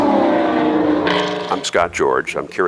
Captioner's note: track Sounds